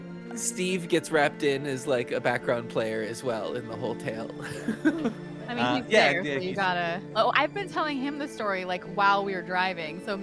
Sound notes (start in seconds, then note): 4.4 laughs